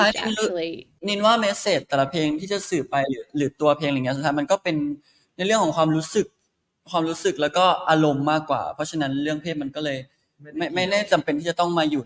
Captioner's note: in Thai